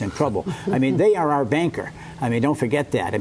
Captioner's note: laughter